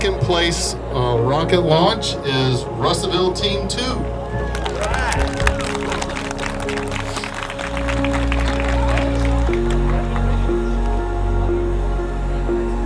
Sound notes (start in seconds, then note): 4.3 clapping; 8.5 soft music